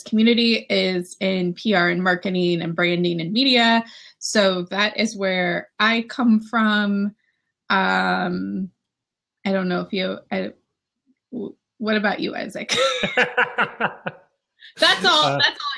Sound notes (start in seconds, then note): 12.7 laughs